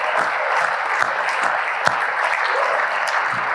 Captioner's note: applause